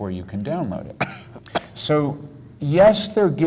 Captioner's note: coughs